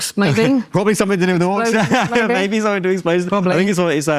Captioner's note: laughs